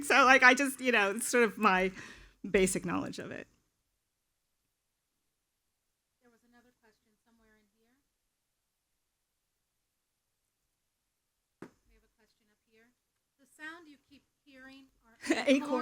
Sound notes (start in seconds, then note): 11.7 acorn thuds